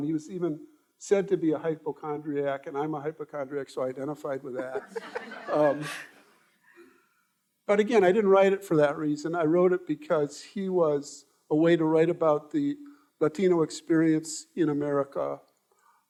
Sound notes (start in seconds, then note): 4.6 all laughing